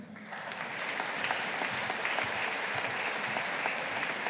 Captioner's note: audience applauding